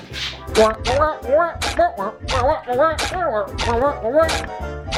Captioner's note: shoes squeaking